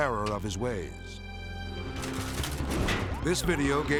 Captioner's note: shield clicking; edgy dramatic music